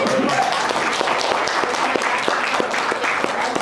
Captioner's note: clapping